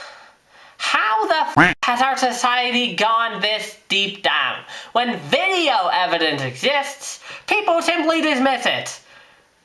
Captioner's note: quack